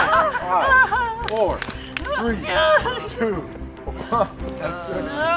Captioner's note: laughing & groaning